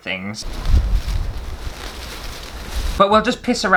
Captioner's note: fabric Rustling